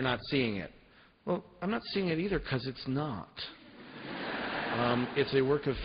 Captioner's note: laughter